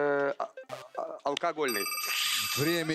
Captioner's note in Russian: звонок